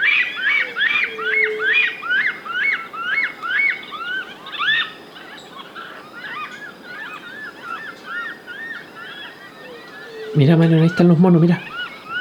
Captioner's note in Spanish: Monos eufóricos